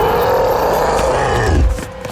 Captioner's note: roaring